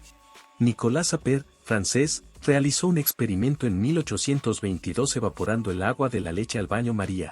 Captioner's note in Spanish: francés